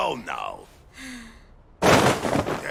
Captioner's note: sighs